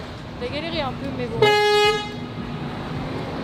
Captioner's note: bus horn